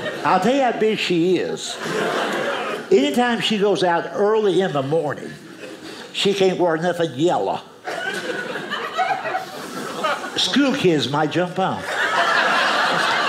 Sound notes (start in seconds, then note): 2.1 audience laughing; 7.8 audience laughing